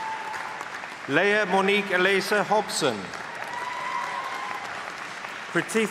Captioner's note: cheering